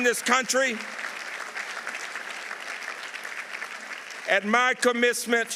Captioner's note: audience applauding